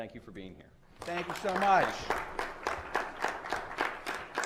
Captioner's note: applause